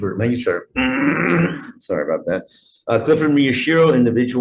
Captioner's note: clears throat